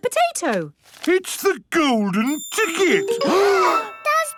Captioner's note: gasps